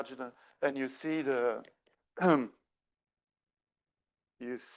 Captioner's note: clears throat